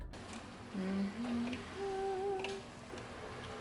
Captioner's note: randomly humming